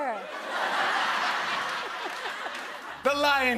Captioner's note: laughter